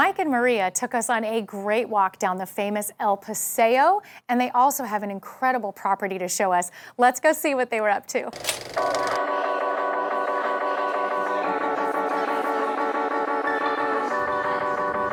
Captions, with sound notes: Mike and Maria took us on a great walk down the famous El Paseo and they also have an incredible property to show us. Let's go see what they were up to. (film scrolling sound) (light electronic music)